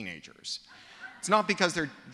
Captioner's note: laughter